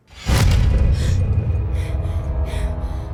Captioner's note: gasping and panting